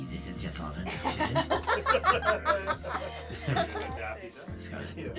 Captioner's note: laughing